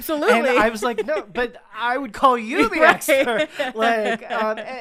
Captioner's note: both laughing